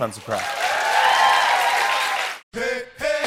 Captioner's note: cheering and applause